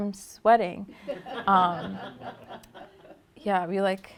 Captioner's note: laughter